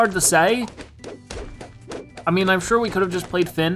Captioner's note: balloons rapidly popping